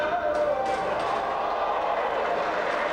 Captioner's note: spectators exclaiming; spectators cheering and applauding